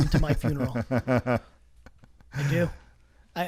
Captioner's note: laughs